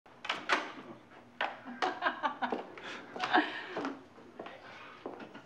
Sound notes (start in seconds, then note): 1.8 laughing